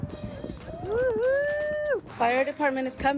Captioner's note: cheering